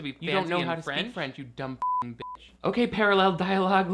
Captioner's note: beep